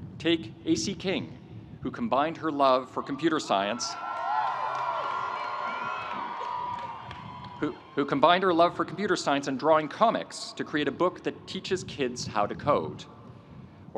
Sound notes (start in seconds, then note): 2.9 audience cheering; 3.3 audience applauding